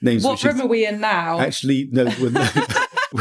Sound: laughter

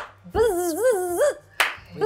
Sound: claps; buzzes; claps

